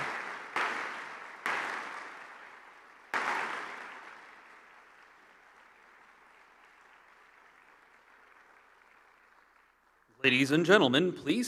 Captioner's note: applause